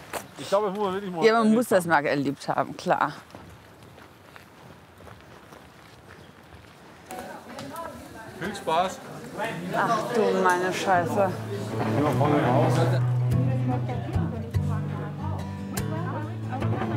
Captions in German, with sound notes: Ich glaub, das muss man wirklich mal erlebt haben. - Ja, muss man, klar. Viel Spaß! (Stimmengewirr) Ach du meine Scheiße. (Lockere Gitarrenmusik)